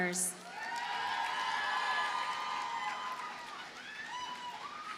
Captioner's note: audience cheers and applauds